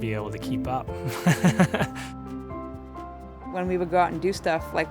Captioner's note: laughs